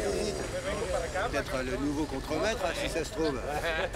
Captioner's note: construction workers speaking Spanish